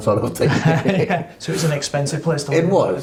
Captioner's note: laughing